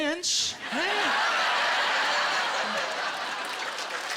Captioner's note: laughter; applause